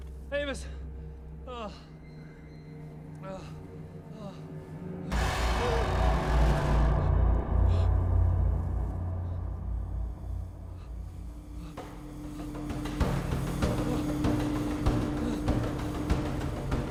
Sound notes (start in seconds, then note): 1.4 moans; 5.1 dramatic tones; 5.1 gasps; 11.8 dramatic percussive music; 11.8 pants